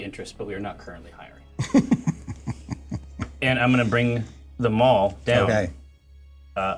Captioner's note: laughter